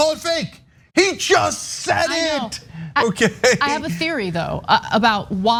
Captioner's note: laugh